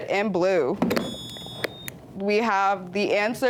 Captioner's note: buzzer beeps